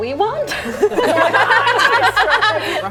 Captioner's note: laughing